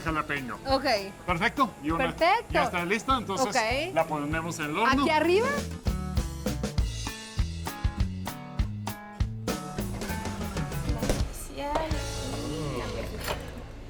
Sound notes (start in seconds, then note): 2.7 speaking Spanish; 4.0 both speaking Spanish